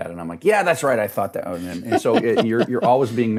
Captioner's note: laughing